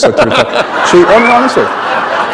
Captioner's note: laughter